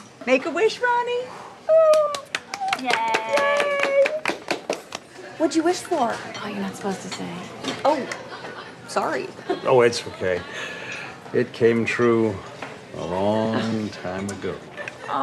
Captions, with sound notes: - Make a wish, Ronnie. (all applauding) - Yay! - Yay! - What'd you wish for? - Oh, you're not supposed to say. - Oh, sorry. - Oh, it's okay. It came true a long time ago.